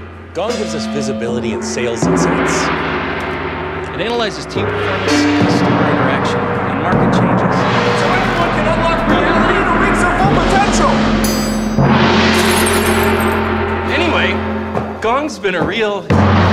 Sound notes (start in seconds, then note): 2.4 gong booms; 7.7 gongs ringing; 11.2 gong dings; 12.3 glass breaks; 16.1 gong booms